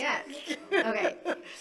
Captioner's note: laughing